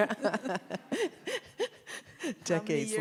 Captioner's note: both laugh